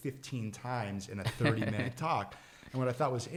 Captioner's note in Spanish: riendo